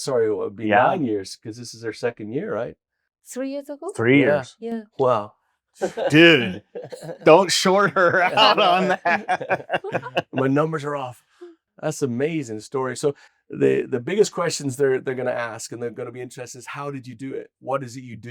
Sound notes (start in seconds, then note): 5.8 laughs; 9.1 group laughs